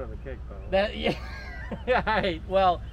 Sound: chuckles

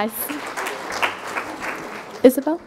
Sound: crowd applauding

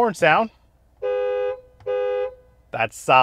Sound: truck honking

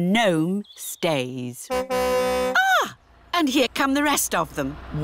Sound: car horn tootles

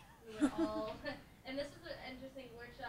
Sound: laughing

